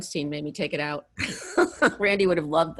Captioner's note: laughs